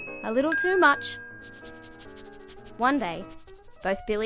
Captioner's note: dog sniffing